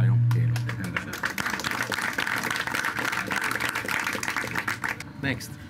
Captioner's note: applause